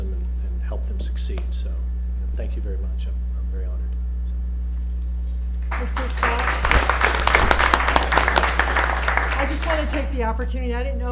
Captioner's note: applause